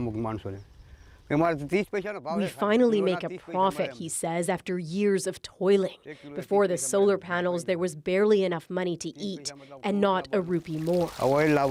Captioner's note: speaking alternate language